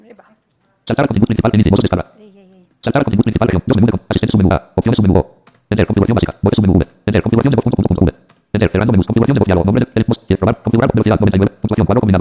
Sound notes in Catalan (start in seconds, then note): 0.6 veu robòtica que llegeix molt ràpid la pantalla en castellà